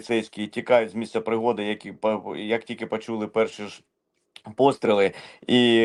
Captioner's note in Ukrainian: сопіння